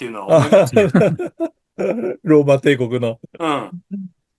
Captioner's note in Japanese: 笑い